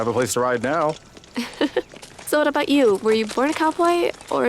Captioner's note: laughs